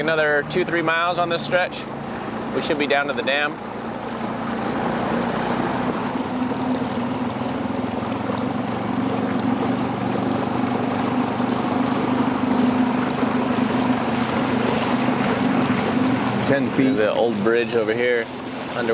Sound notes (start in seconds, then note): 6.8 engine humming; 13.7 water splashing